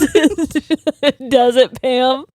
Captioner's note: both laughing